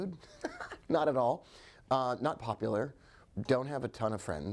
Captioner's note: chuckling